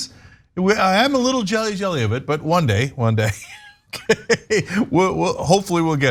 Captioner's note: laugh